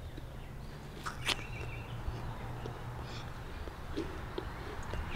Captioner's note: crunches apple